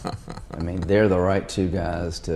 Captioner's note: laughs